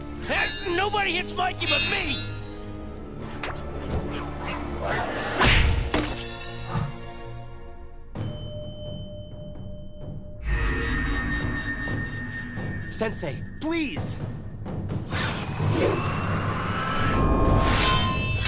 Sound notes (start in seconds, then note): 5.4 clanking; 17.3 grunting